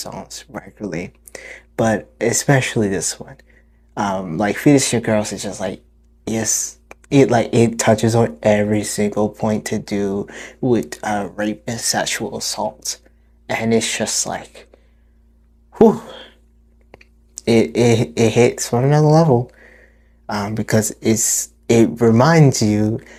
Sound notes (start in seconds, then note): 15.6 exhale; 16.5 studders